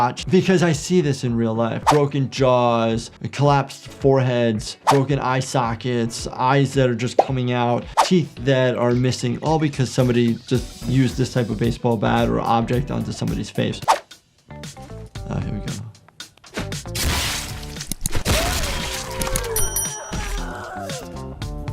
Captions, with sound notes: because I see this in real life. Broken jaws, collapsed foreheads, broken eye sockets, eyes that are just coming out, teeth that are missing, all because somebody just used this type of baseball bat or object onto somebody's face. Oh, here we go. (weapon booms) (character moans)